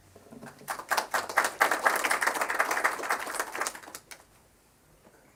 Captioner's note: applause